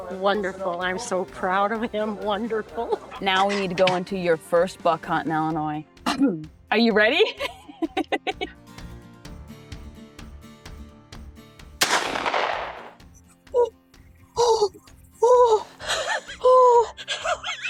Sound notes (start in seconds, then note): 7.2 laughs; 9.1 upbeat music continues; 11.8 shotgun fires